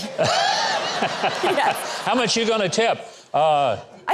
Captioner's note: all laugh; laughs